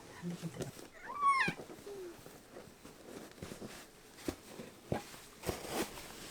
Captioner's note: INFP me silently sobbing